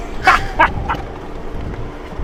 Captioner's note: laughs